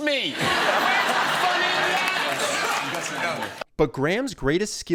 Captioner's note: audience laughing